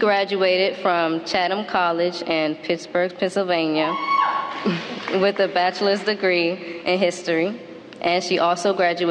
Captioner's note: applause